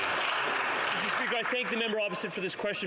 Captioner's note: some Applause